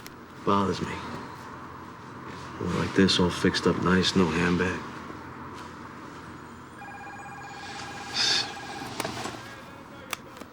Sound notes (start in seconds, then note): 6.7 cellphone ringing; 8.1 sighs